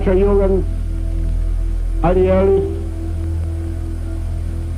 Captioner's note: speaking in a foreign language